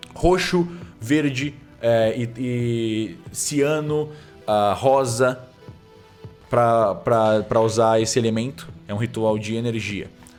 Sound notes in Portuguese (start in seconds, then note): none